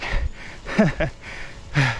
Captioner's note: laugh